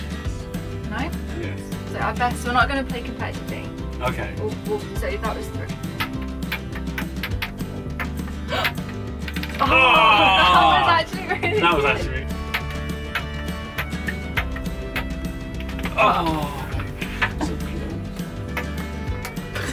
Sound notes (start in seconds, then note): 9.6 scream; 16.0 sighs